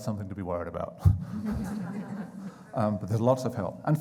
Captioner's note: crowd chuckling